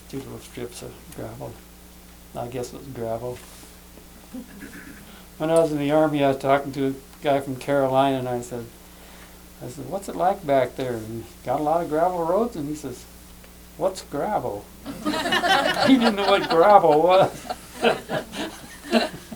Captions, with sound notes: There's two little strips of gravel. I guess it was gravel. When I was in the Army, I was talking to a guy from Carolina, and I said, "What's it like back there? You got a lot of gravel roads?" And he said, "What's gravel?" (laughter) He didn't know what gravel was.